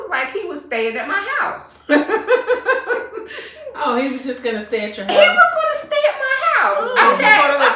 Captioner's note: laughter